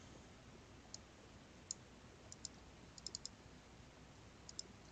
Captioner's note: mouse clicking